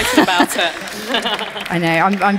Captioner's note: audience applauding